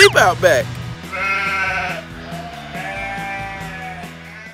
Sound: bleating

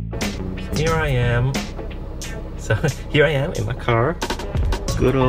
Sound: laughs

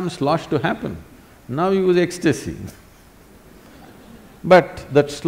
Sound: laughs

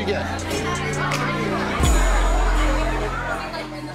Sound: crowd chattering

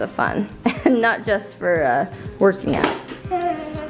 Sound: laughs

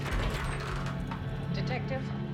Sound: door opens

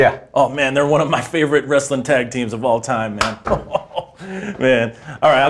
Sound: laughs

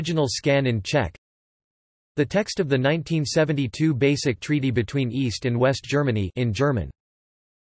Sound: in German

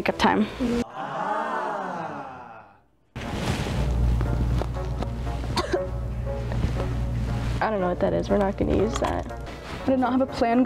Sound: coughs

